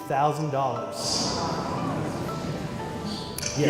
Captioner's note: gasps